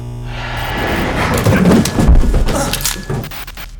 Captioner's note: buzzing; crashing